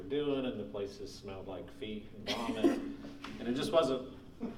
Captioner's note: laughing